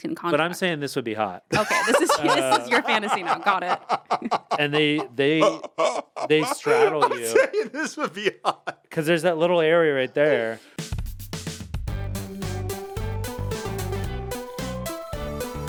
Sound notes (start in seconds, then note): 1.8 Anthony laughing; 6.8 Anthony laughs; 12.0 upbeat music